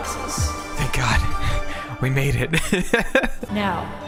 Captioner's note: laughter